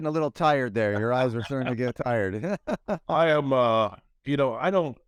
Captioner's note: laughs